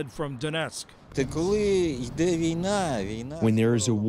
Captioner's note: through translator